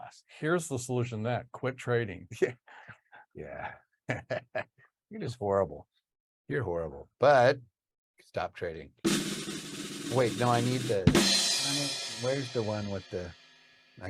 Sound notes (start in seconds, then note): 4.0 laughs; 9.0 drums patter